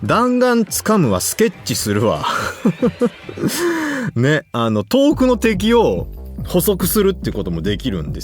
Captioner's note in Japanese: 笑い